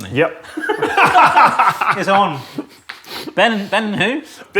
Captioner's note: both laugh